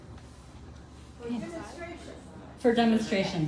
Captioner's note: crowd